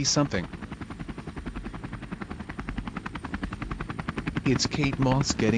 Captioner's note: voiceover; helicopter blades whirring